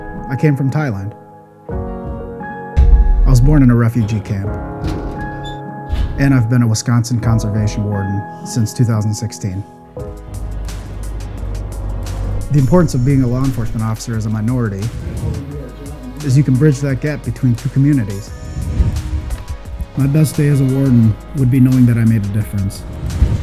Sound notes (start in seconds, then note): 2.7 loud bang; 4.7 bangs; 4.9 squeeks; 10.3 truck noises